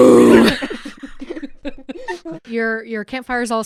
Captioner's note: laughter